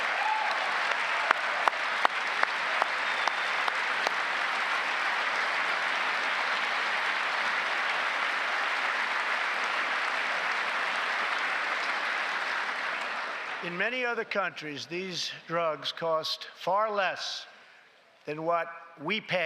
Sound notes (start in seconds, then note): 3.7 applause